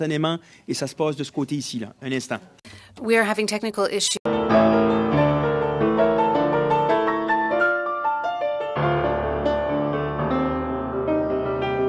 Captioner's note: speaking in French